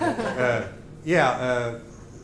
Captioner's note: laughter